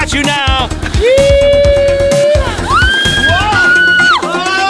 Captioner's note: screaming